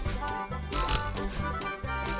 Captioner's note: bonks